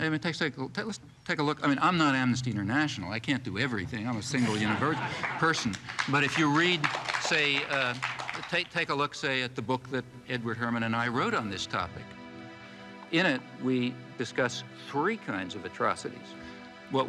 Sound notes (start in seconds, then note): 4.3 audience applauding